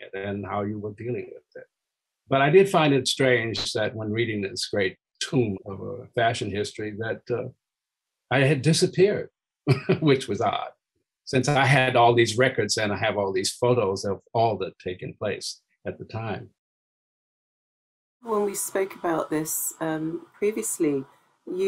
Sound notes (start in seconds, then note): 9.7 laughing